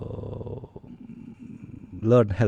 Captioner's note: sigh